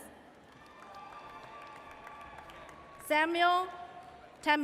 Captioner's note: audience cheers